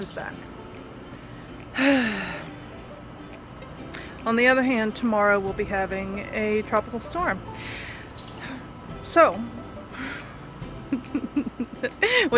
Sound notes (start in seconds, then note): 1.8 sigh